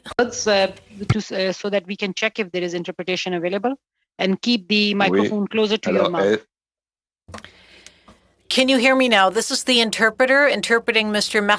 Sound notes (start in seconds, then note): 3.4 speaking French